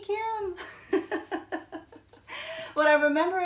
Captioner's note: laughs